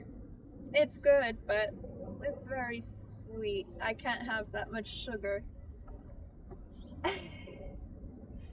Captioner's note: laughs